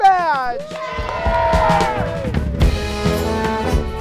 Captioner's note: campers cheering; band music